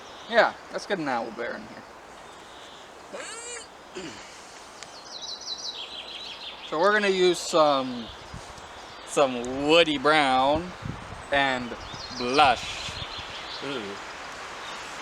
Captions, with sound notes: yea, let's get an owl bear in here (less manly grunt) So we're gonna use some some woody brown and Blush uwu